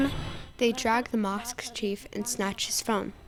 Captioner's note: through translator